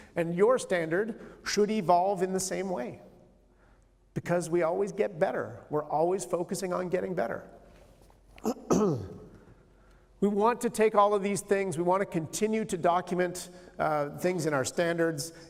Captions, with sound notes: And, your standard should evolve in the same way. Because we always get better. We're always focusing on getting better. [clears throat] We want to take all of these things. We want to continue to document things in our standards,